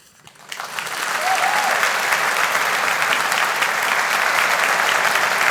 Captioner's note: audience applauding